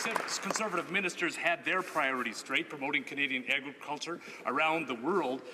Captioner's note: some Applause